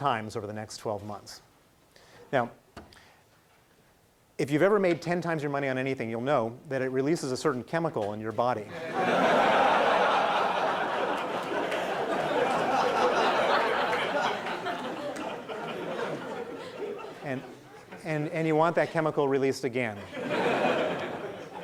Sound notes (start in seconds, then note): 8.9 laughing